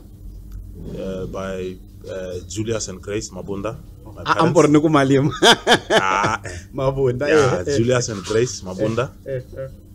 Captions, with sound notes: by Julius and Grace Mabunda, my parents. I almost said Malema [Laughs] No Mabunda right? Yes Julius and Grace Mabunda.